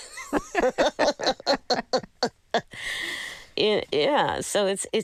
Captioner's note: laughter